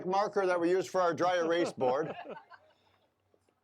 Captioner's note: all laughing